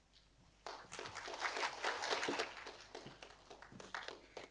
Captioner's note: audience applauding